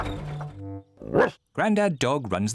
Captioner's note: barks